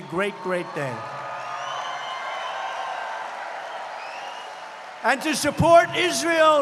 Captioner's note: applause